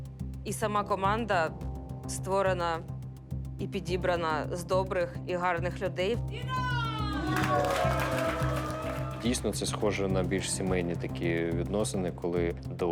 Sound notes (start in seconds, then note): 6.4 team cheering